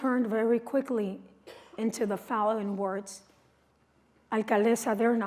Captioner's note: non-english speech